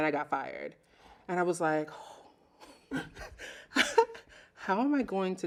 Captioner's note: laughing